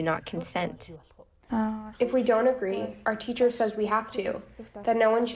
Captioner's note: through translator